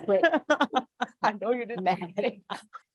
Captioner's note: laughing